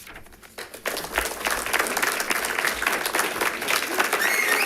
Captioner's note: audience claps